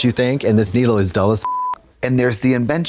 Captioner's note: beep